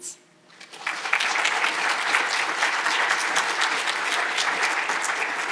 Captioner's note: audience applauding